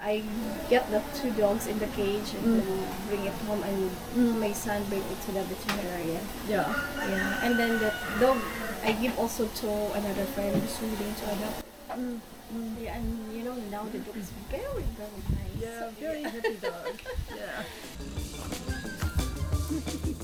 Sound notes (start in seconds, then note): 16.1 laughing; 17.9 jaunty music